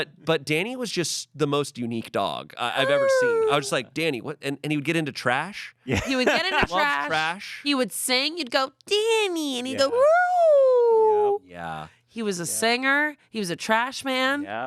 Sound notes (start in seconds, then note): 2.8 howls; 10.8 howls